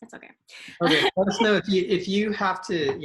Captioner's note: chuckles